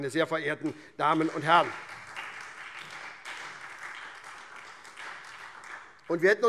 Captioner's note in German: Beifall SPD, DIE LINKE und vereinzelt Freie Demokraten